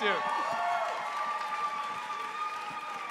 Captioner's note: cheering and applause